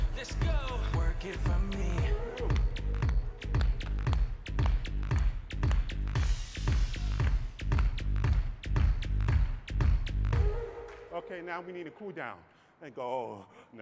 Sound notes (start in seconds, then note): 2.7 rhythmic clapping